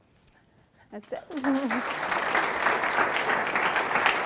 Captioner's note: clapping